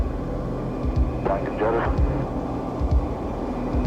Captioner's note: garbled speech over radio